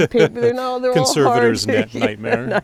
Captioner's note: laughs